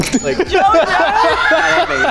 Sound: laughs; crew laughs

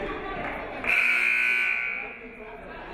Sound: buzzer buzzes; referee whistles

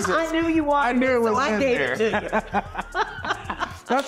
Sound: laughing

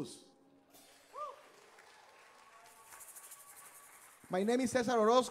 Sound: audience applauding

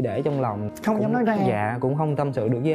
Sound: huu

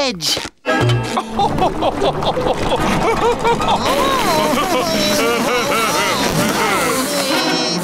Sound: laughing

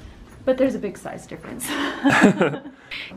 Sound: laughing

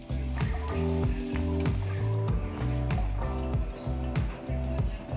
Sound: patrons chattering

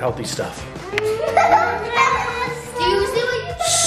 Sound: laughter

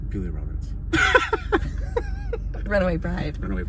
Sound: laughs

